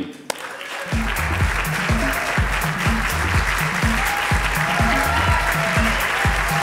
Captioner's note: lively music; audience applauding